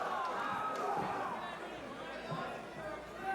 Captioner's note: crowd cheering